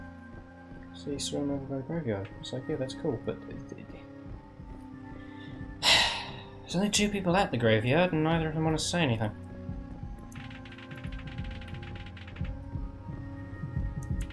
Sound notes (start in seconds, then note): 5.8 sudden Loud Sigh